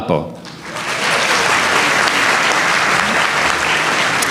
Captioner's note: applause